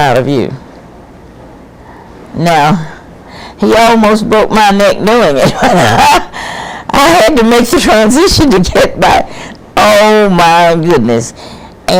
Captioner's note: laughs